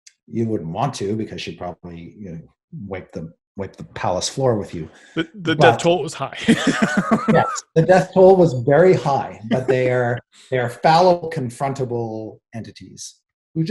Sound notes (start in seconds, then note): 5.1 chuckles